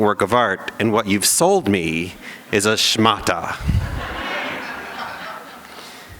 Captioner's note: laughter